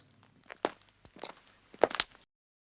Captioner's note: the sound of footsteps